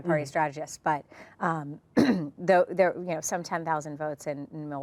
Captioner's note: clears throat